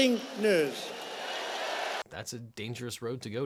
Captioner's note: crowd cheering